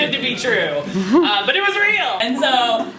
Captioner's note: laughter from the audience